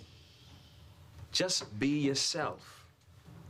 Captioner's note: none